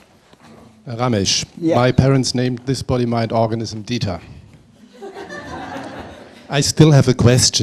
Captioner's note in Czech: smích